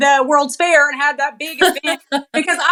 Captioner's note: laugh